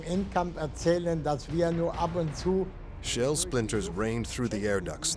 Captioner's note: speaking german